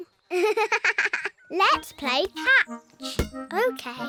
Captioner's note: giggles